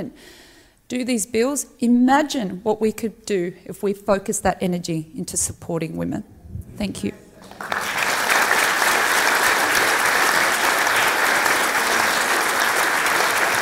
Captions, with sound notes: and do these bills, imagine what we could do if we focus that energy into supporting women. Thank you. (clapping)